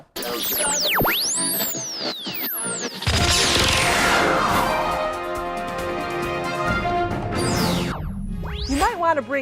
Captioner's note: sound Effects